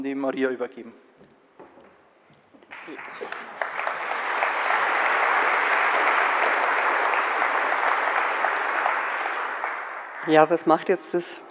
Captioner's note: applause